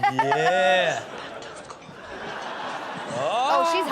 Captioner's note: Chanel laughing; audience laughing